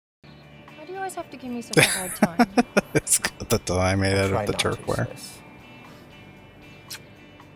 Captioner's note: laughing